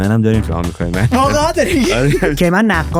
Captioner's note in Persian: خنده